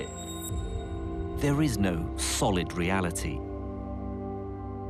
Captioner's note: voiceover